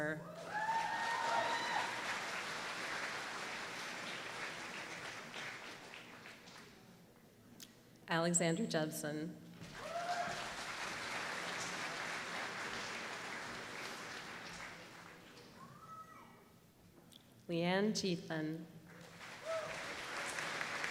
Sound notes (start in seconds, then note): 0.4 applause; 9.7 applause; 18.9 applause